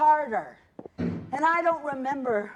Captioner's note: banging